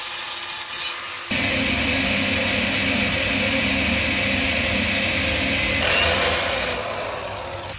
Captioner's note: smoke rises from drilling